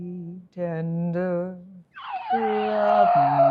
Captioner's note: screaming